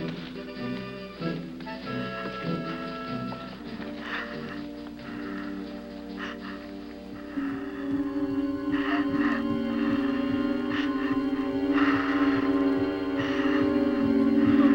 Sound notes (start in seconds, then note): 2.3 Johnny breathes heavily; 4.4 suspenseful music